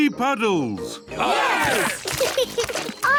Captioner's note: laughs; cheering